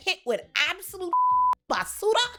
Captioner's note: beep